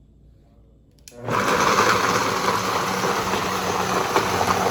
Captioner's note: blending noise